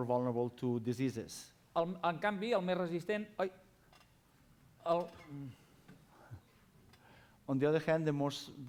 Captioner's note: non-english speech